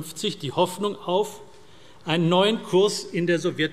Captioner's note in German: none